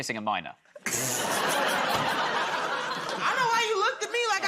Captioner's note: laughter